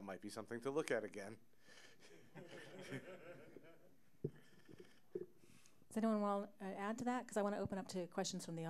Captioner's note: audience Laughter